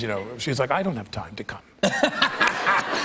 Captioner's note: laughter